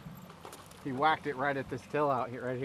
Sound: fish splashing

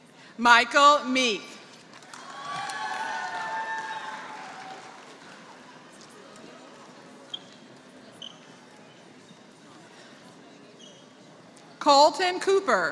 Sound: applause

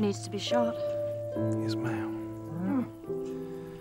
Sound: cow grunts

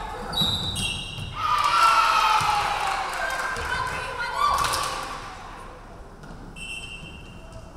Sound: referee whistling; crowd cheering; referee whistling

